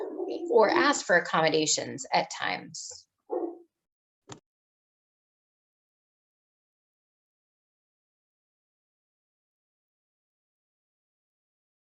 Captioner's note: sound goes out